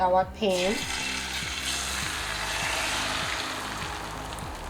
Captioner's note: pan sizzling